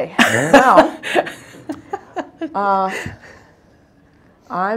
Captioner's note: laughing